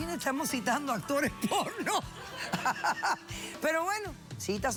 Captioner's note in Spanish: risas